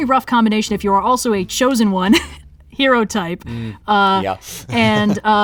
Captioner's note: laughs